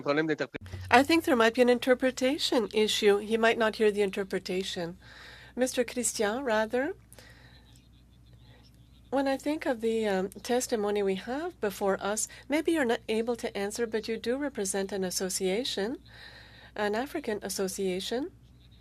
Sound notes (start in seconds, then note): 5.0 speaking french